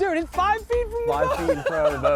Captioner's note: laughs